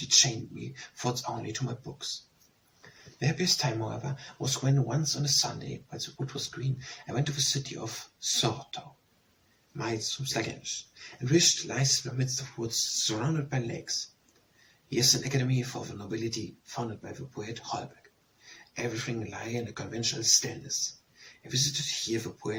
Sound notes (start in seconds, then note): 8.7 Danish